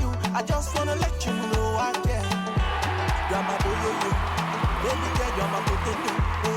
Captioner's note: crowd cheering